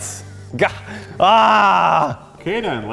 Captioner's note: frustrated sigh